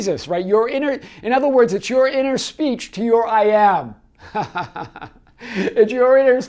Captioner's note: laughs